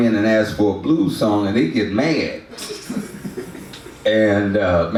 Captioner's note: audience laughs